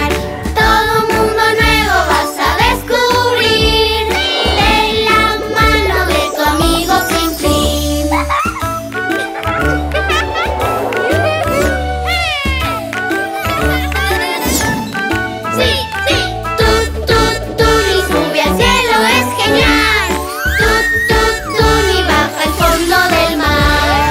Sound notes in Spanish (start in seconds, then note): 8.0 Música Alegre; 9.0 Risas